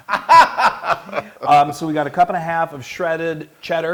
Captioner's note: laugh